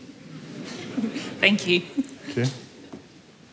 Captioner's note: laughter